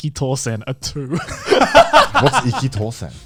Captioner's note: both laughs